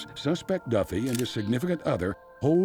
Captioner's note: camera shutters clicking